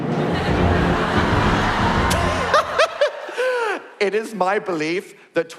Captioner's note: dramatic sound